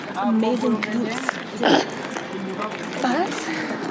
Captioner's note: woman snorts